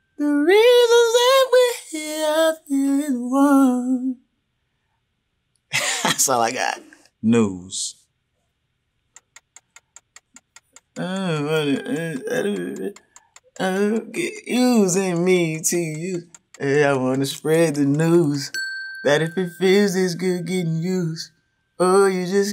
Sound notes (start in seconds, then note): 5.7 chuckles; 8.1 clock timer ticking